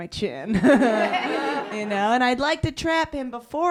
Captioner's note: laughter